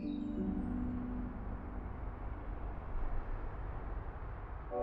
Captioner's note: birds chirping; traffic sounds